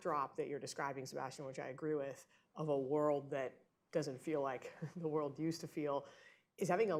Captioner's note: laughs